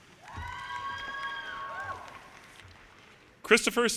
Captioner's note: audience cheers and applause